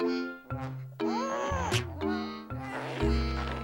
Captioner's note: whining